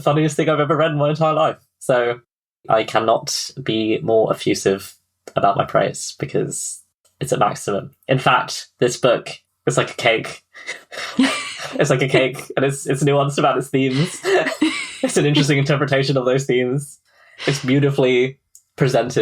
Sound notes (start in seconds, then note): 10.6 laughs